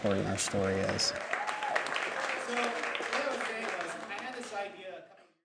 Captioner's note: applause